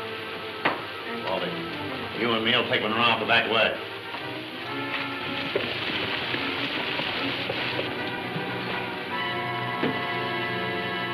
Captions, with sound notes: Bobby, you and me will take Munro out the back way. (waterfall pouring) (ominous music playing)